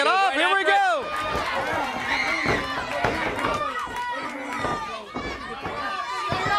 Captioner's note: crowd cheering